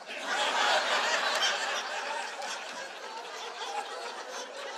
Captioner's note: audience laughing